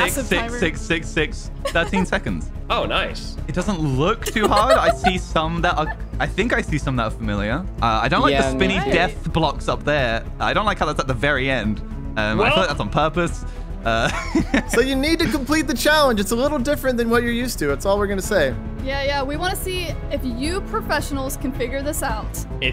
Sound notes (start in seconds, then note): 4.2 laughs; 13.9 laughs